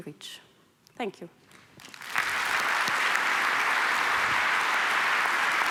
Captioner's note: applause